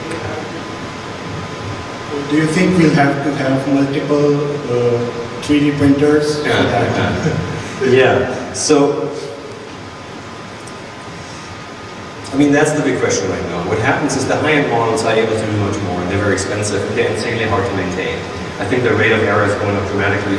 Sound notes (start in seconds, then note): 2.6 voiceover; 6.4 laughing